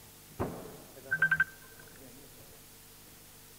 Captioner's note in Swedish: Telefon ringer